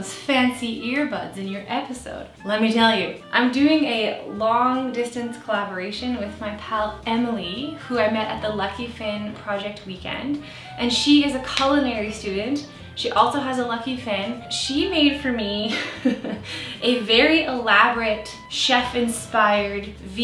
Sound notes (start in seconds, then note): 16.0 laughs